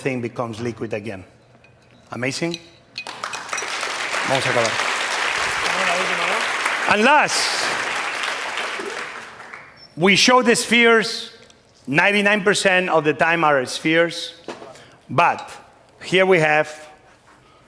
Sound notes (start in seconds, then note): 3.0 applause; 4.3 speaking spanish